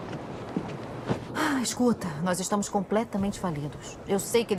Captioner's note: sighs